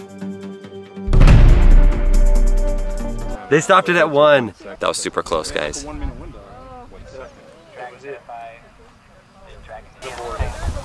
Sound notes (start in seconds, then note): 1.0 explosion